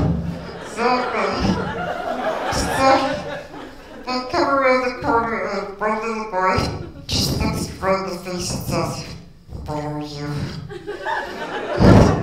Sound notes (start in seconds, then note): 0.3 laughter; 10.6 laughter